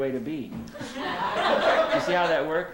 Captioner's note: laughter